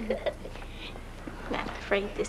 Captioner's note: laughter